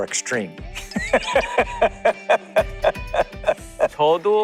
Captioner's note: A hearty laugh